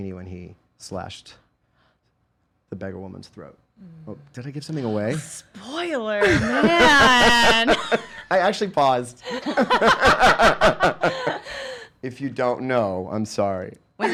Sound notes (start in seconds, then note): 6.2 laughing; 10.4 laughing